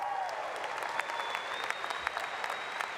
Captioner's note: applause